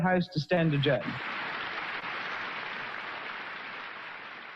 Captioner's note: audience clapping